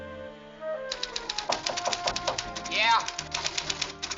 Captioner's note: knocking